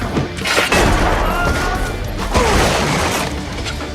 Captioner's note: screaming